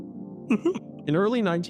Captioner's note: chuckles